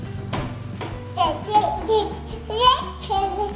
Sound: baby babbling

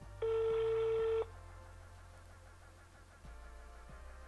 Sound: phone ringing sound

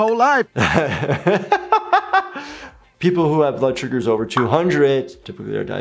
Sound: laughs

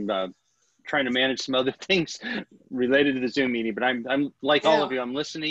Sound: laughter

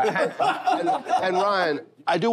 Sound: laughter

